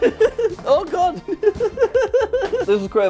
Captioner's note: laughs; both laugh